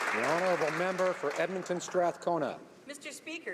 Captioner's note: applause